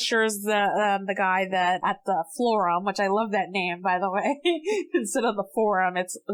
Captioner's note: laughs